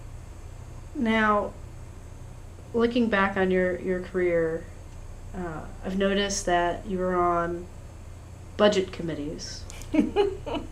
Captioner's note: laughs